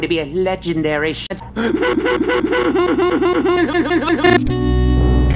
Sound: gasping laughing

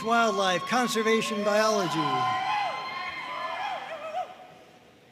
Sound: audience cheering

